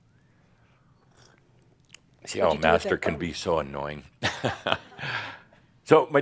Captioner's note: he chuckles